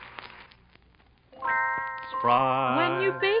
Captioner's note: bell ringing